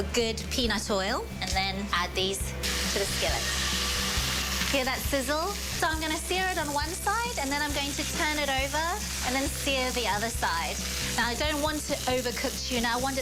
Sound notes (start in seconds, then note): 1.8 sizzling